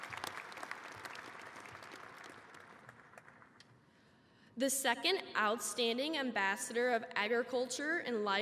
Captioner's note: applause